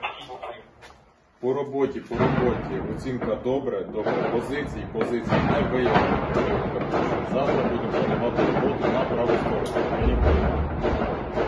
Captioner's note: radio is beeping